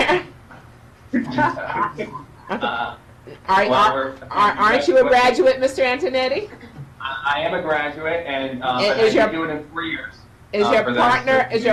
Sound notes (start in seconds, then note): 1.1 laughs